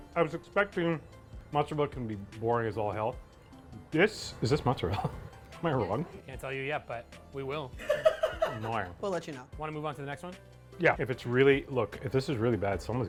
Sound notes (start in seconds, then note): 7.8 laughing